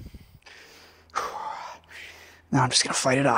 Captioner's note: breathing